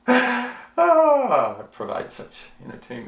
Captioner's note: sighing; laughing